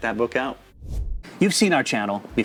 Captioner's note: air whooshing